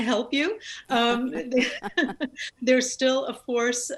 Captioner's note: both laugh